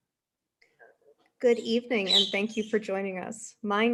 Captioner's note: bird chirps in the background